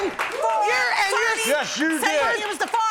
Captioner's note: both clamoring